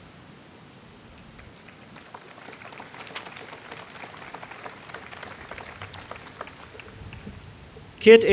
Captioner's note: applause